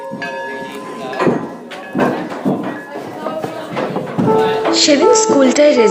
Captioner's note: children running downstairs